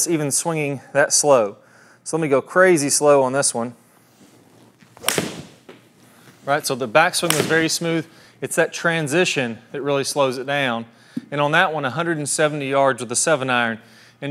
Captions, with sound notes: even swinging that slow. So, I'm gonna go crazy slow on this one. (golf ball thwacks) (golf ball thwacks again) Right, so the back swing was very smooth. It's that transition that really slows it down. And on that one, 170 yards with a 7-iron,